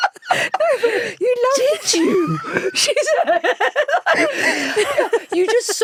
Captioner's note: both laughing